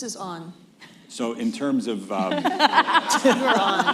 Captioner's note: laughter